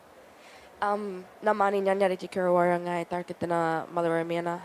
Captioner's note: speaks indigenous language